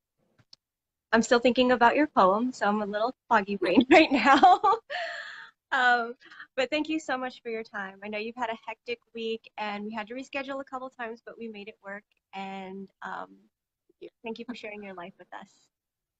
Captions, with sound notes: I'm still thinking about your poem so I'm a little foggy brained right now. (laughs) But thank you so much for your time. I know you've had a hectic week and we had to reschedule a couple times but we made it work and thank you for sharing your life with us.